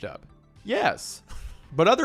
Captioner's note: chuckles